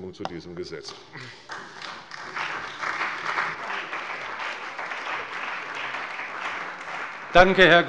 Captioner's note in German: Beifall bei der CDU und dem BÜNDNIS 90/DIE GRÜNEN